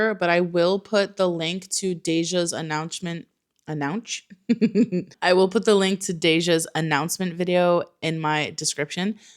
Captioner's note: giggles